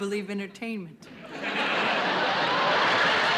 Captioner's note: laughter